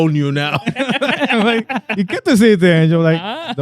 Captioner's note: laughing